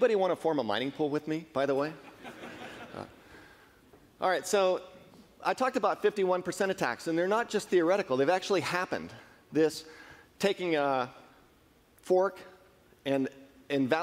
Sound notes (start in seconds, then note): 2.1 laughing